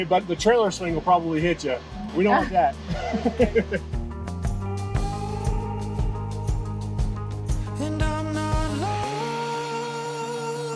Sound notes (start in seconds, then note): 2.8 laughing; 5.5 upbeat music continues